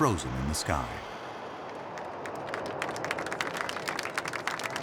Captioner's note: people applauding